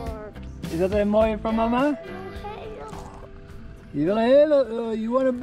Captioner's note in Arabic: ثرثرة بالهولندية